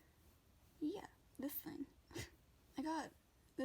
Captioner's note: laughs